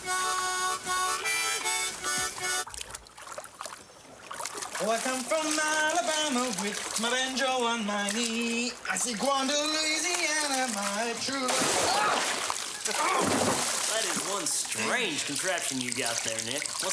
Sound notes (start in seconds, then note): 2.8 water splashing; 11.2 water splashing; 11.7 yelling; 12.9 Simon laughing